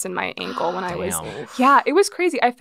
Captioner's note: exhales